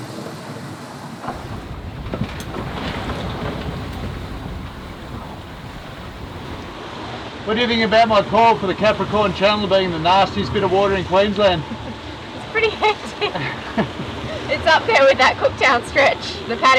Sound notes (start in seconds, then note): 2.3 waves crashing; 12.6 laughs